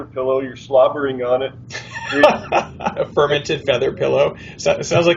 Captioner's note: laughs